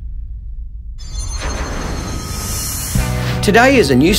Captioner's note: shimmering